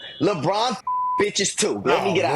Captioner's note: beep